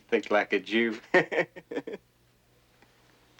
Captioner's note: laughs